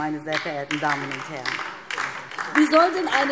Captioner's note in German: Beifall DIE LINKE